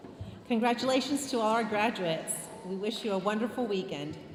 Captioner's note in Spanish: hablando en inglés